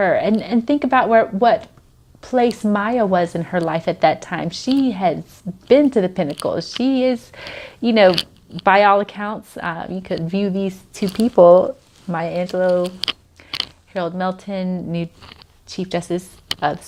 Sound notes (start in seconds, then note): none